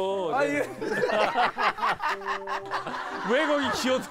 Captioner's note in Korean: 낄낄낄